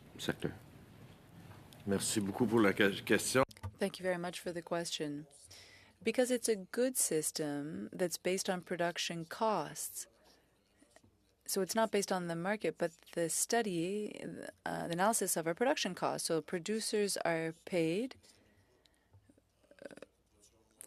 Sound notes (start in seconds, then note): 9.5 speaking French